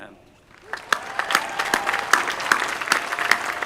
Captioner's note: applause